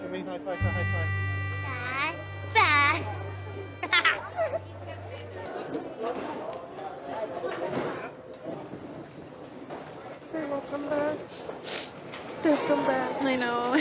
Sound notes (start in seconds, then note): 3.8 giggles loudly; 10.7 tearfully; 11.6 sniffles